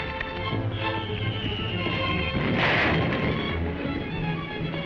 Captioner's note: bomb whistling